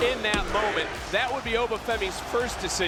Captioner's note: crowd cheers